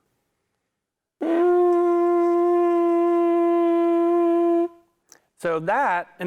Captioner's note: makes sound on horn